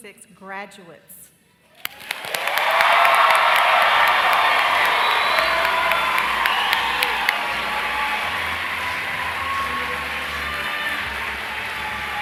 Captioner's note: crowd cheers